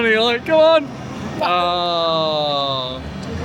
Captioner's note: crowd Chattering